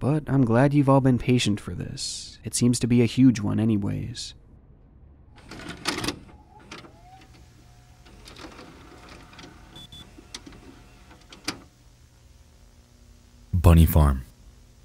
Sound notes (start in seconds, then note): 5.4 cassette clacks; 6.8 VHS machine whines